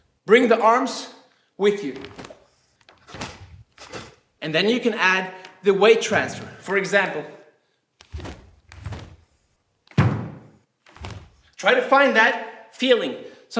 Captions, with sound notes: Bring the arms with you. (snapping) And then you can add the weight transfer, for example. (snapping) Try to find that feeling.